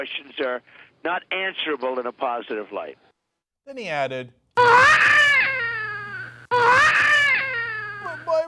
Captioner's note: baby crying